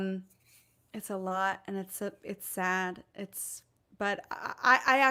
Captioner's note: none